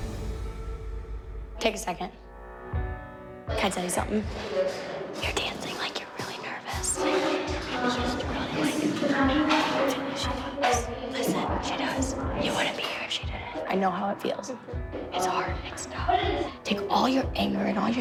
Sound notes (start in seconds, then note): 4.4 girls whispering